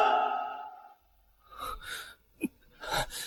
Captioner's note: silence